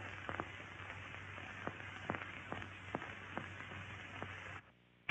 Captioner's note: drill rumbling